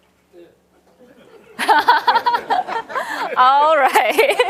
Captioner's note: laughs; audience chattering